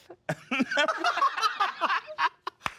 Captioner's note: everyone laughs